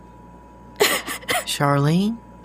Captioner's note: Charlene sobs